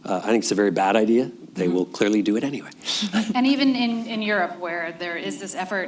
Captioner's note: laughs